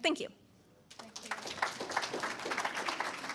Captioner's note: audience applauds